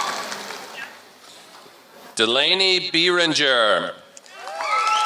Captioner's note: applause